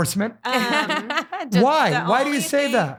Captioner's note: laughing